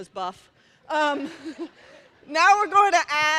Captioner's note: laughter